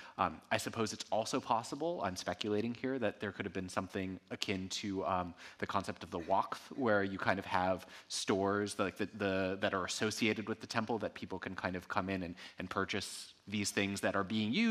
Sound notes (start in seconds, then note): 6.2 speaking in ancient Egyptian